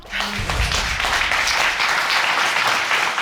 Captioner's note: audience clapping